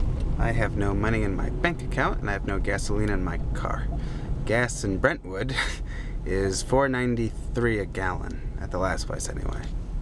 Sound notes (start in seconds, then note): none